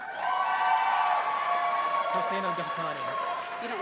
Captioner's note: applause